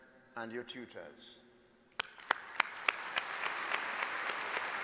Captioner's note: applause